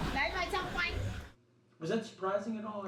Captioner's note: speaking foreign language